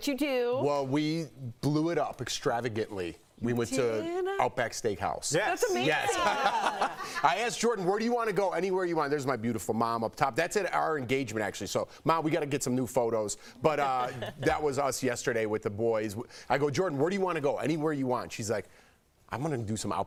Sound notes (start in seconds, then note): 11.6 laughter